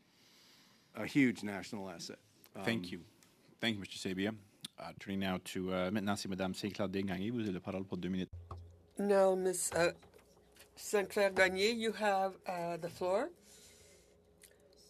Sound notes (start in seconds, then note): 9.7 speaking French